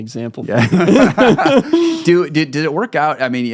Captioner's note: both laughing